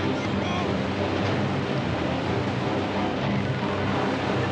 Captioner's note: water splashing